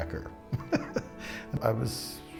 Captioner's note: laughs